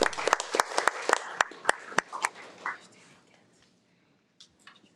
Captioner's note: audience applauding